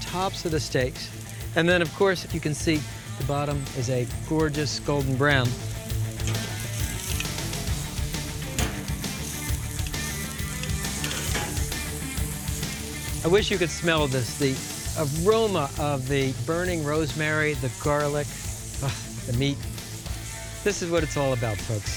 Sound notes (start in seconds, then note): 8.3 metal clanking